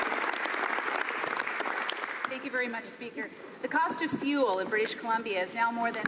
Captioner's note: some Applause